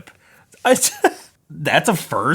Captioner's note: laughing